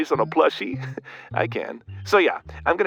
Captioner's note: chuckles